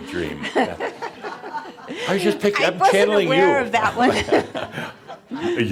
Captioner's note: she chuckles; they chuckle